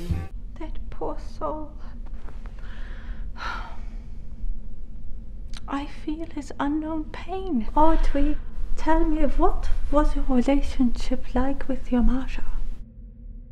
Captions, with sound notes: That poor soul. *sighs* I feel his unknown pain. Audrey, tell me, what was your relationship like with your mother?